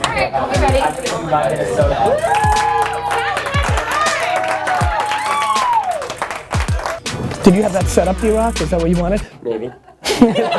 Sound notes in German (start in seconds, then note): 0.3 Voice-over; 1.8 Jubel und Applaus; 4.6 Keuchhusten und Applaus; 9.4 Lachen